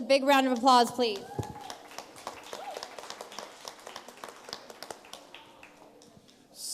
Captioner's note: light applause and cheers